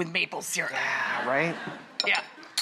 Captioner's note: audience laughs